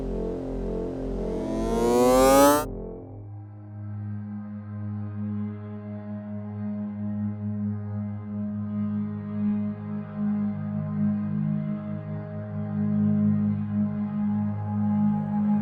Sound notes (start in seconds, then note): 1.8 wind up noise; 4.1 calm music